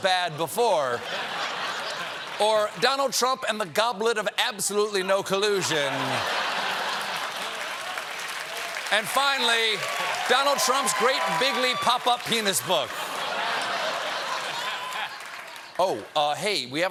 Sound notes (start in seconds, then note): 0.8 laughter; 5.6 laughter; 5.8 applause